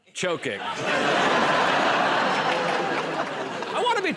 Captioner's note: laughter